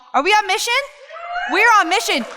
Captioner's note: crowd cheers